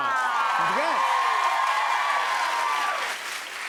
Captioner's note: cheers and applause